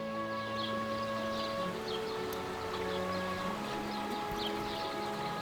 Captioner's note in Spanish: pajaros y rio fluyendo